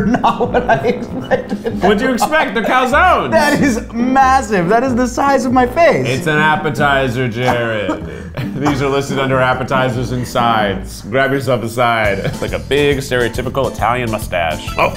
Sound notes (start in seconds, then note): 1.8 laughter